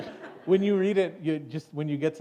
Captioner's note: laughter